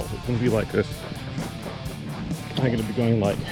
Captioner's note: air whooshing